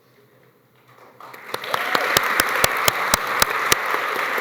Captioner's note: applause